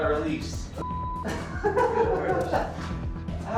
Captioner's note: laughs